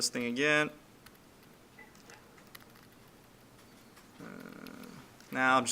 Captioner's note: clicking Sounds